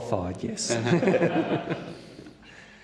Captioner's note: laughs